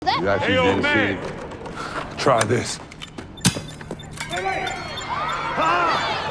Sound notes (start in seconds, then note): 3.3 bomb beeping